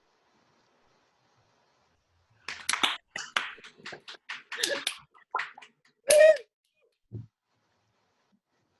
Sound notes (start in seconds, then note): 2.4 attendees applauding